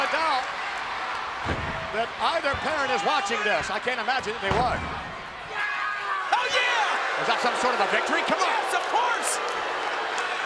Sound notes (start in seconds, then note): 6.3 Owen yells